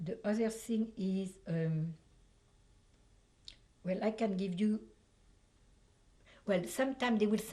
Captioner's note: pauses for 3 seconds